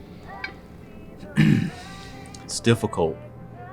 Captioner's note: clears throat